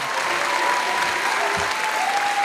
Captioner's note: audience applauding